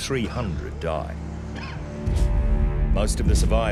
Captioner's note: man coughing